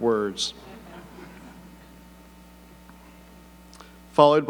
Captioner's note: audience laughing